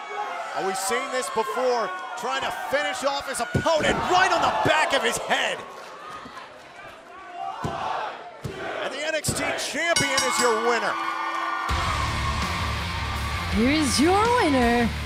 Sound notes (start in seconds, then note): 9.9 bell ringing